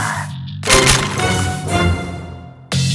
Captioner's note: click-clack